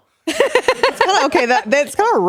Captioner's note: laughing